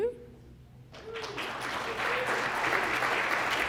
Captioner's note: applause